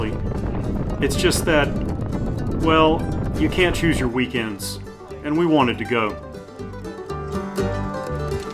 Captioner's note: wind